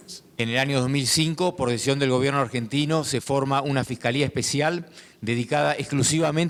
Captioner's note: speaking in foreign language